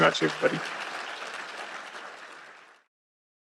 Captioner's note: applause